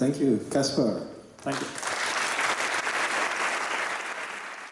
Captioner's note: applause